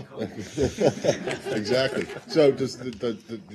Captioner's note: laughter